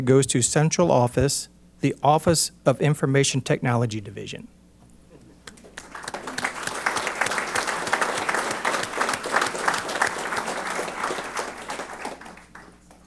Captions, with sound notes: goes to Central Office, The Office of Information Technology division. [APPLAUSE]